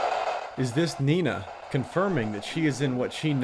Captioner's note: voiceover